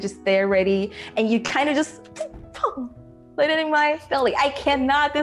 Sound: poof

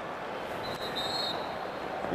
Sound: whistle blown

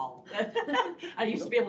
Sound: laughter

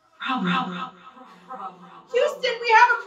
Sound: echoing

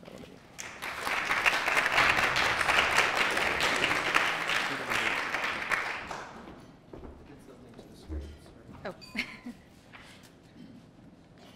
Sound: applause}

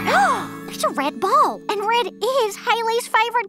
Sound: gasps

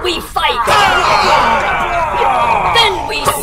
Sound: Klingon cheers

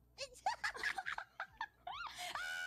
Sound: laughs and giggles

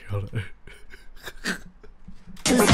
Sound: evil laughing

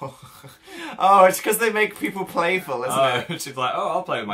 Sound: laughs

